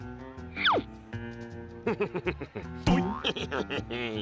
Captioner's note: laughing